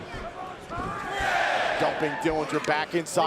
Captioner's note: crowd chatter